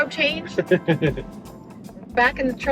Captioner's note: chuckles